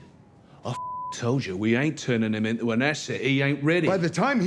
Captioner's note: beep